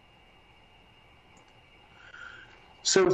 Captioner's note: mouse clicks